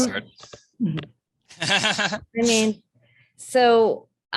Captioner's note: laughing